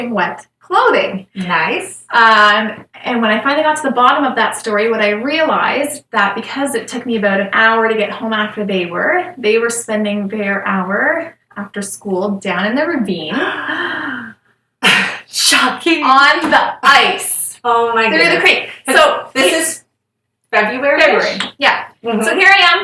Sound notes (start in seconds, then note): 13.3 shocked Sigh